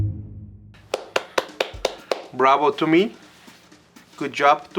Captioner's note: clapping